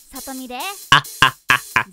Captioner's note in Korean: 웃음